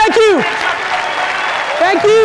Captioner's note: audience applause